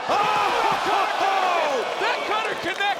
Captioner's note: audience gasping